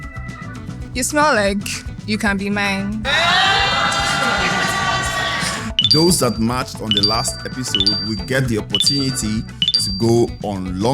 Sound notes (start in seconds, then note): 3.0 cheers